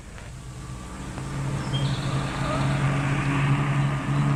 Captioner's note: engine rumbling